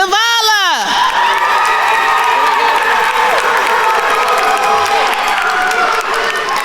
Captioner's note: attendees cheering and applauding